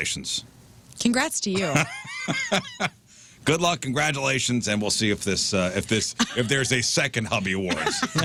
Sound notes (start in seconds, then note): 1.6 laughing